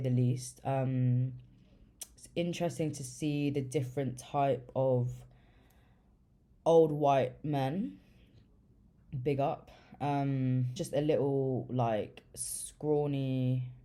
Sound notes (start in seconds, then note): none